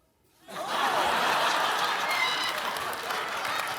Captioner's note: laughter